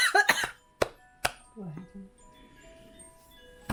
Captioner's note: coughs and chokes; whispers